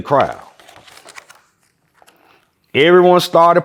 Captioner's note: pages rustling